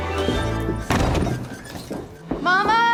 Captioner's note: door slams